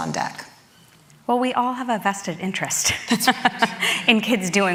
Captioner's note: laughs